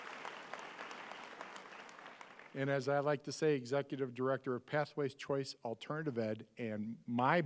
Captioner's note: applause